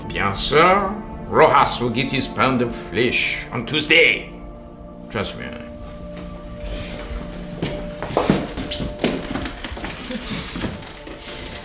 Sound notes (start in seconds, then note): 7.8 footsteps thudding